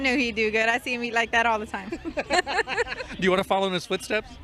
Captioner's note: laughter